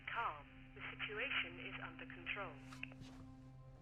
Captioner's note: intercom